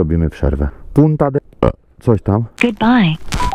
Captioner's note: burp